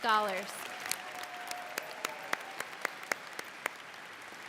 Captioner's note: all clap